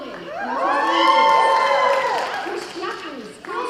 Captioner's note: cheering